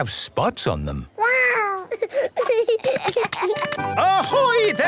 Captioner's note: giggling